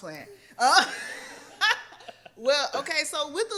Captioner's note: laughs